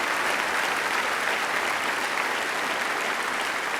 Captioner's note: applause